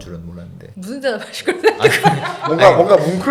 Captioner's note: ha ha